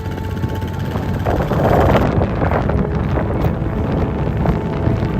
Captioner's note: wind blowing